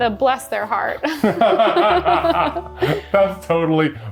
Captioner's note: both laughing